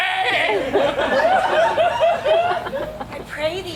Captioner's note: audience laughs